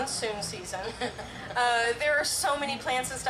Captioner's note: laughs